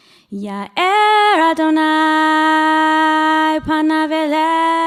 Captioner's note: speaking hebrew